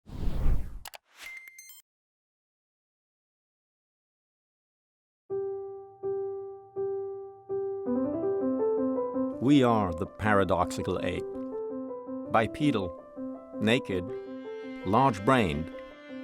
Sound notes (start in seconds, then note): 0.8 mouse clicks; 1.2 electronic beep; 5.5 bright piano music